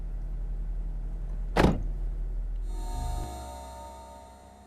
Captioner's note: car door closing